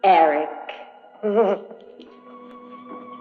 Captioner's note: groaning